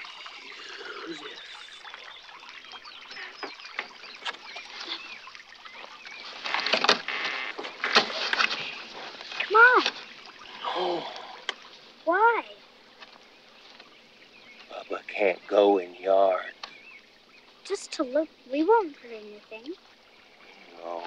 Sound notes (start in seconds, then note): 2.7 water splashing